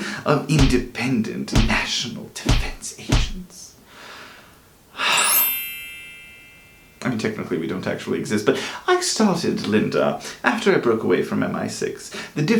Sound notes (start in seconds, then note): 5.0 happy sigh; 5.0 magic wand noise